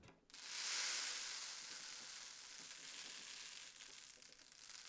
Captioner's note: gentle crackling